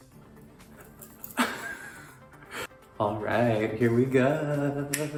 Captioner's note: laughs